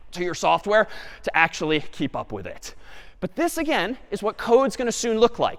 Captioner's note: none